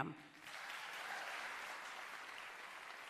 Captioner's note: applause